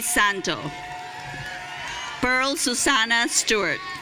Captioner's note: audience cheering